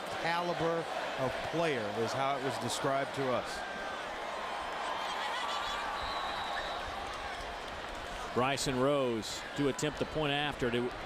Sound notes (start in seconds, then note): 1.4 crowd noise